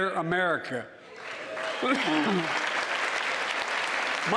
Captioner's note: cheering and applause